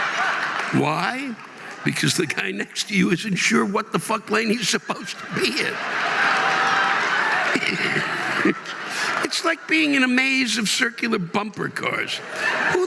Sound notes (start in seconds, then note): 1.8 audience laughing and applauding; 9.5 audience laughing and applauding